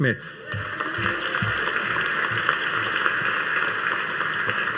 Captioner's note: audience applauding